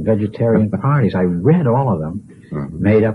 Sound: laughs

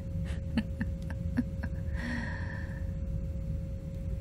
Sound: laughs in victory, sighs, as I stop recording

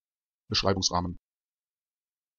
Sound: fast Pronunciation

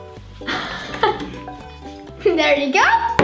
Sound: laughs

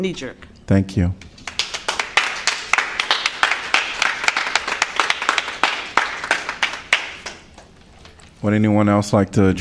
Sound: applause

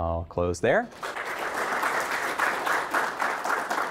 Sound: audience applauding

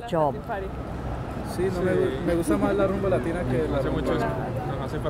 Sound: speaking in Spanish

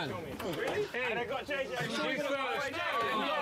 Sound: shouting

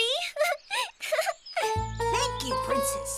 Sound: giggles

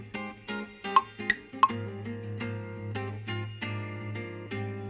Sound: clock ticking

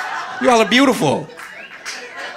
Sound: audience laughing

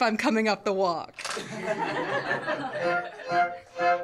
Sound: laughter

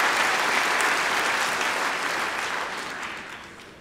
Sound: applause

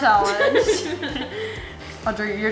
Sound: laughing

